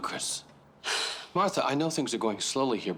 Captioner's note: sighs heavily